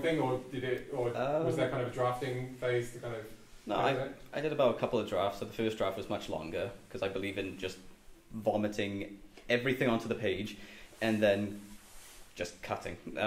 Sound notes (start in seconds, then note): none